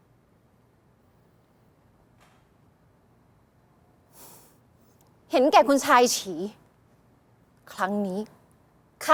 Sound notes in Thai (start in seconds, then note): 4.1 เสียงถอนหายใจ